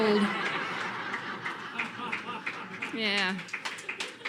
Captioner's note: laughter and applause